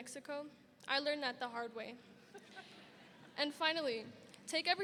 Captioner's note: scattered laughter rings